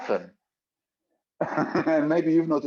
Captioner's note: chuckles